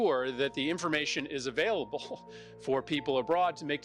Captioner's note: laughs